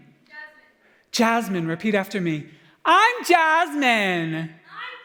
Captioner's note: loud Mocking Voice